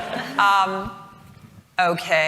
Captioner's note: chuckles